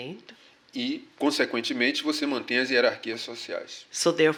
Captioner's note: speaking portuguese